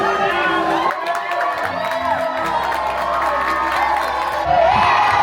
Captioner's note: audience applauding and cheering